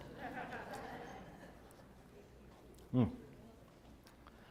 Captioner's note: laugh